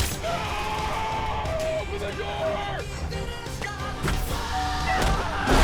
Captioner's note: screaming